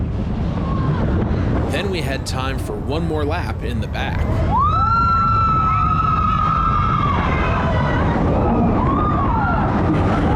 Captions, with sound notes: Then we had time for one more lap in the back. (riders screaming)